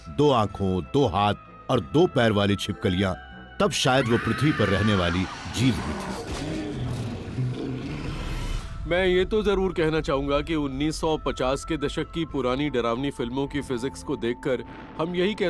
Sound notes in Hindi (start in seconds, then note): 5.7 महिला चीखती है